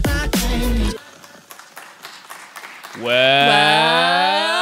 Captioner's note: guests applauding